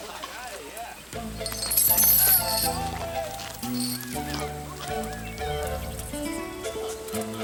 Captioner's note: gang members laugh and chatter; gentle music; chain rattles